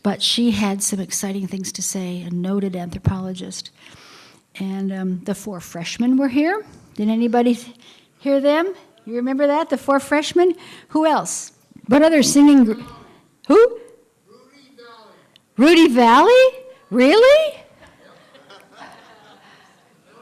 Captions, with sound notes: BUT SHE HAD SOME EXCITING THINGS TO SAY, A NOTED ANTHROPOLOGIST AND THE FOUR FRESHMEN WERE HERE, DID ANYBODY HEAR THEM? DO YOU REMEMBER THAT, THE FOUR FRESHMEN? WHO ELSE? WHAT OTHER SINGING GROUP? WHO? >> RUDY VALLEY. >> RUDY VALLEY? REALLY? [LAUGHTER]